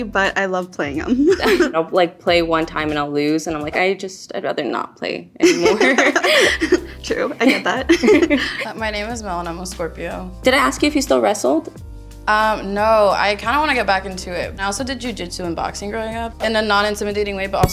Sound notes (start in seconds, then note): 5.4 laughing